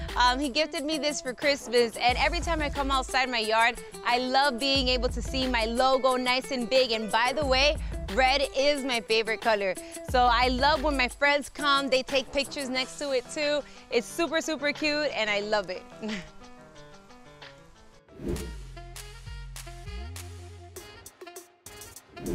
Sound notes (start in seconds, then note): 18.1 scene change swooshes; 18.2 upbeat music; 22.1 scene change swooshes